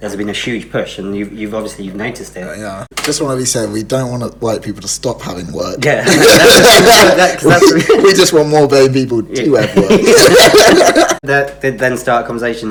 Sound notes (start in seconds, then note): 9.5 laughs